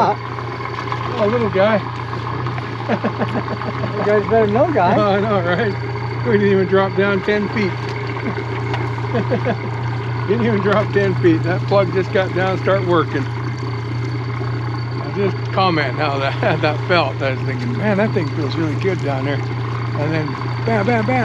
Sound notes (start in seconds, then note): 2.3 laughing; 9.1 chuckling; 10.6 boat engine idling